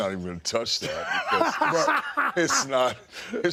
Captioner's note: DDP laughs